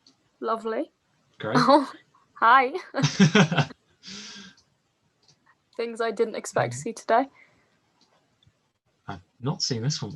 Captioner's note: laughing